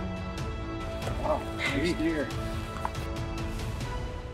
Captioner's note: buck grunting; dramatic music continues